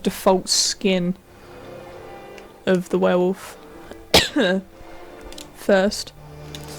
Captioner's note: cough